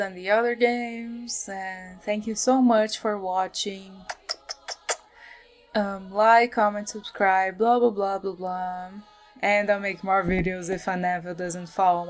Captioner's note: kisses